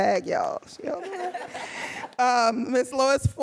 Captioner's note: audience laughing